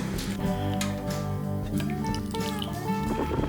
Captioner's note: milk tea Drinking